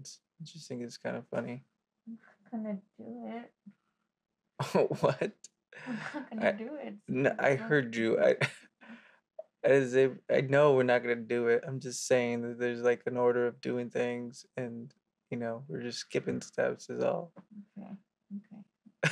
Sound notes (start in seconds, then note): 4.6 he chuckles; 7.1 he chuckles; 7.6 she mumbles; 18.9 he laughs